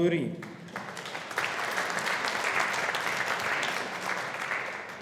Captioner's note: audience applauding